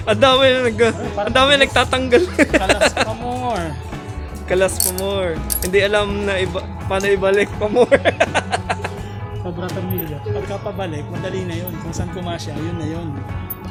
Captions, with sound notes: There's a lot that detached some parts *laugh* remove more! remove more! didn't even know how to attach these again *laugh* It's easier to attach for as long as it fits, that's it!